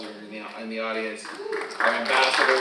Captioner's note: audience applauding; audience cheering